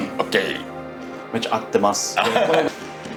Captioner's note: speaking in foreign language